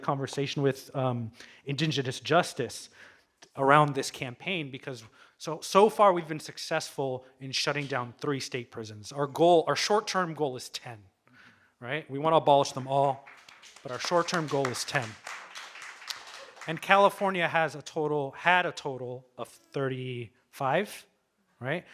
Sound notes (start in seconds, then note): 12.9 audience applauding